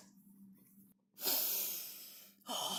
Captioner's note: snifs loudly